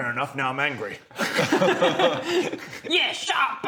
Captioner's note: laughs